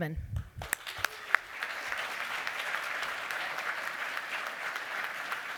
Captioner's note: applause